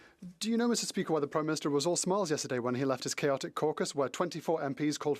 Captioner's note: speaking French